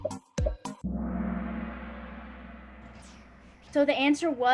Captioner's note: gong